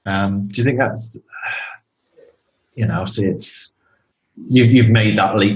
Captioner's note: sighing